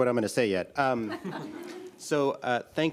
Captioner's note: audience laughs